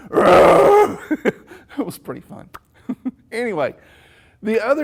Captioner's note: roars